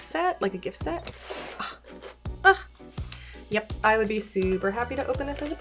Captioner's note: sighs